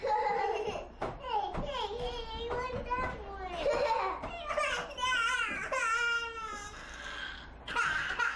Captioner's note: both girls laugh